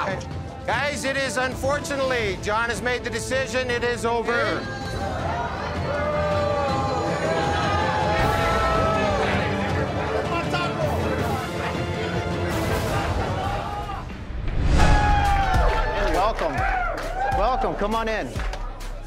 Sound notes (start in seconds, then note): 4.6 boos; 14.6 cheers